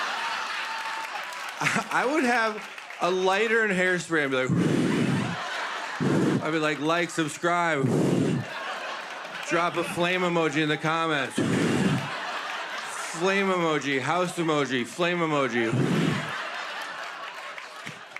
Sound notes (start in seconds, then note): 4.4 whooshing; 7.7 whooshing; 11.4 whooshing; 15.6 whooshing